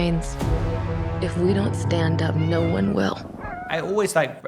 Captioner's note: cats meowing